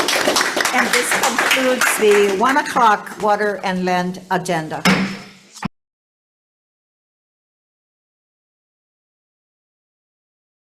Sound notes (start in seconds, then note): 0.0 all applauding; 4.8 gavel bangs